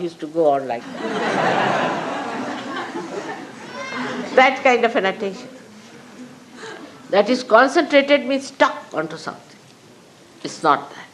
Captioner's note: laughter